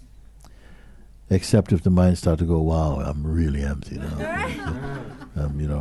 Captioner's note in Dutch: gelach